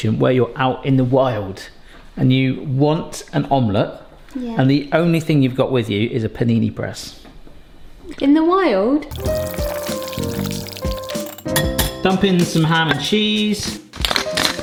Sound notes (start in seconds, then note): 9.1 egg mix sloshing; 9.1 gentle music; 14.4 pepper mill grinding